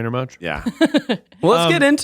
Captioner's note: laughs